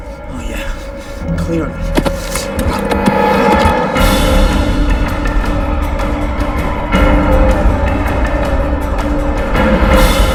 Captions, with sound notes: OH, YEAH, CLEARLY. ( grunting ) ( sirens wailing )